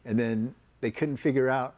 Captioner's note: none